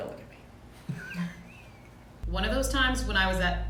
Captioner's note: man laughs